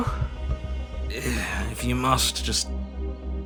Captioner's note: groans